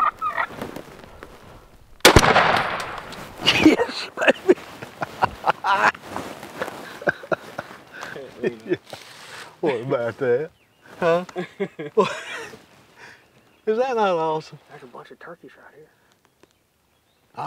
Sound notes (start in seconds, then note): 2.0 gunshot; 6.5 laughter